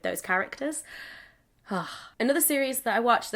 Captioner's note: sigh